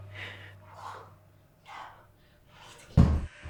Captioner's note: all gasping